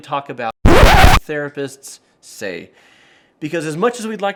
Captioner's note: record scratching